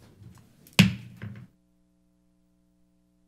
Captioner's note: gavel bang